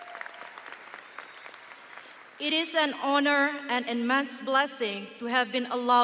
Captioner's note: audience applauding